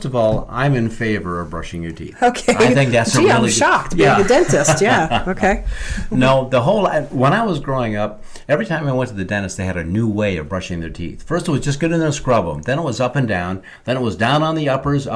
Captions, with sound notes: - Well, first of all, I'm in favor of brushing your teeth. - Okay. (laughs) Gee, I'm shocked, by the dentist, yeah, okay. - No. When I was growing up, every time I went to the dentist they had a new way of brushing their teeth. First it was just get in there and scrub 'em, then it was up and down, then it was down on the uppers,